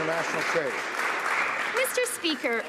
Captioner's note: some Applause